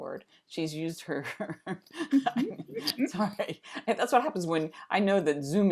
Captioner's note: laughter